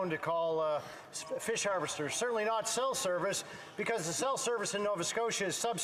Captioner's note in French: voix de l'interprète